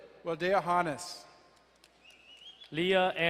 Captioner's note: whistling